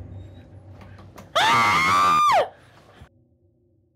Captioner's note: screams